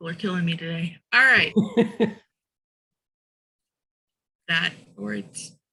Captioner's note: laughing